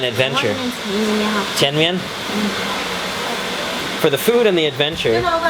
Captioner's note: woman speaks in Chinese